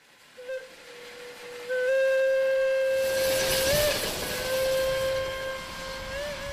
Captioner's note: train whistle hooting